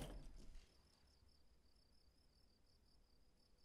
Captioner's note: crickets chirping